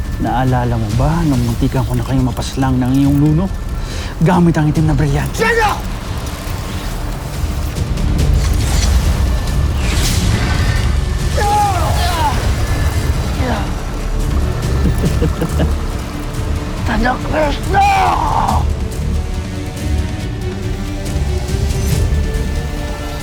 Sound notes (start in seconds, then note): 5.7 evil energy whoosh & crackle; 6.4 weapons whoosh; 10.9 powerful blast-crackle; 11.3 growls & grunts; 14.6 cackles; 19.0 intense music playing